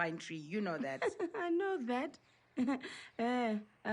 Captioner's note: laughs